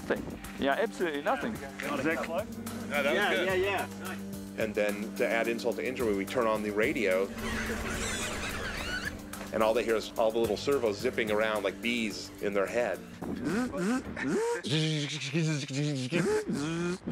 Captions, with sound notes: You know, absolutely nothing. -Yeah, that was close. -Yeah. Yeah, yeah. And then to add insult to injury, we turn on the radio. (MECHANICAL BUZZING) and all they hear is all the little servos zipping around like bees in their head. (IMITATING BUZZING) (IMITATING BUZZING)